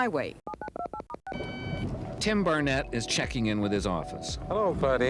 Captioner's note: electronic beeps